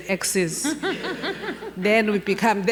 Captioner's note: laughing